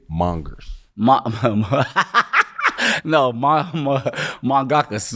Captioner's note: laughing